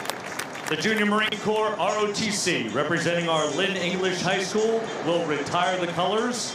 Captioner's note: applause